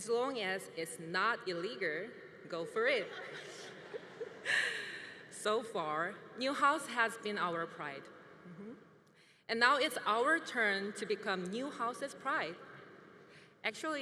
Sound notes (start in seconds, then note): 2.8 congregation laughing